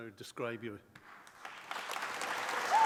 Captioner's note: applause